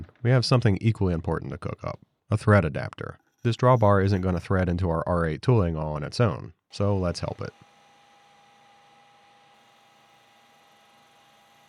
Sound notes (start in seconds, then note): 6.7 machinery whirring